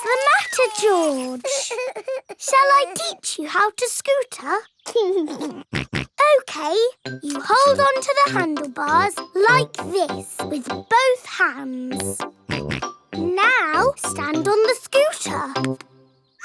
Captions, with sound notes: What's the matter George? Shall I teach you how to scooter? (LAUGHS AND SNORTS) Okay. You hold onto the handlebar like this -with both hands. -(SNORTS) Now stand on the scooter.